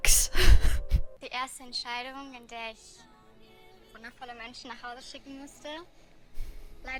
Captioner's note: chuckles; speaking in German